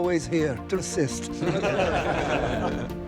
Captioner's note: laughter